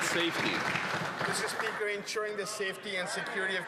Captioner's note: some Applause